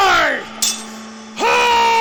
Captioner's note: yelling